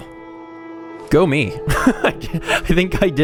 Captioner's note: laughs